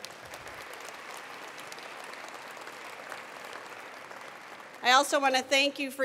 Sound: attendees applauding

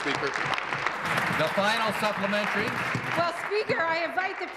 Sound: applause

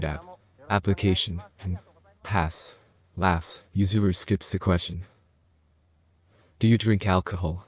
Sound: laughs

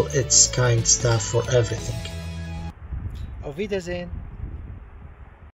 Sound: German

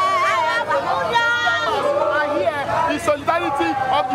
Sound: all chattering

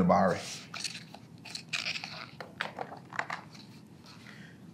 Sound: pages rustling

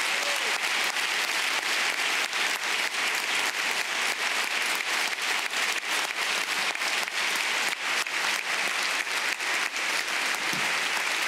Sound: applause

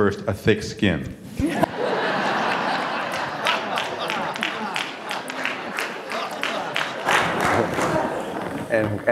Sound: laughter

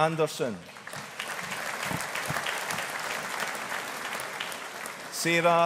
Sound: audience applauding

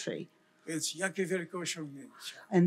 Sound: foreign language

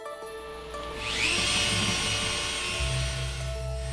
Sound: buzzing

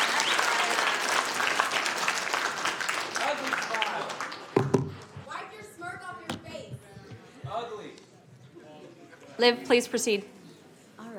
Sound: applauding

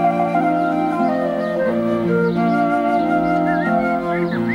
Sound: birds twittering

